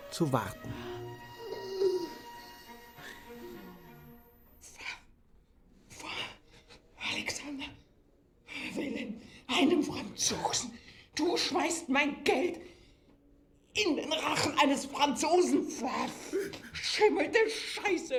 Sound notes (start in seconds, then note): 1.3 Wilhelm schluchzt laut; 1.4 Erstickter Laut